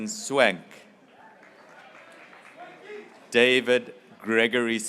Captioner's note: graduates cheering